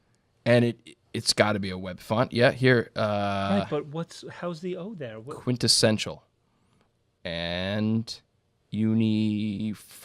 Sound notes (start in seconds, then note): none